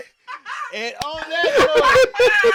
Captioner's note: laughing